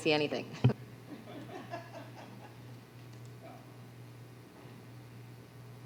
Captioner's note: laughter